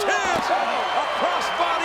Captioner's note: bodies thud